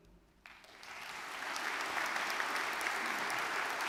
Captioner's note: audience clapping